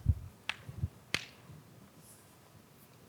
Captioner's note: knuckles cracking